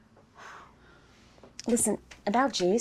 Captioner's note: sighing